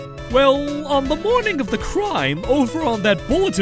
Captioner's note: none